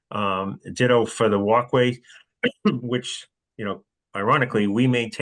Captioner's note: cough